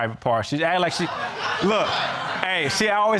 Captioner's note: crowd laughing